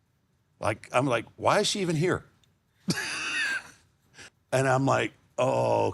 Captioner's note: laughs